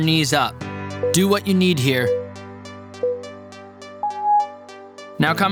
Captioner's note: timer beeping